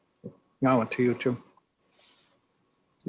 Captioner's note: another language